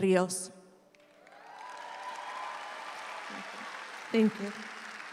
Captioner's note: audience applauds